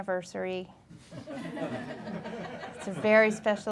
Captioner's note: audience laughing